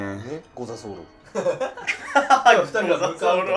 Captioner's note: laughing